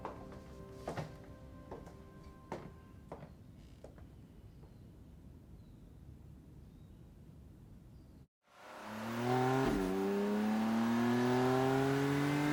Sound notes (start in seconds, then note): 0.0 music fades; 8.4 engine rumbling